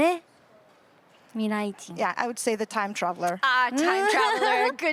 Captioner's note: interpreter’s translating in Japanese